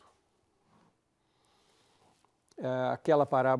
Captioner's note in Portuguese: pausa sonora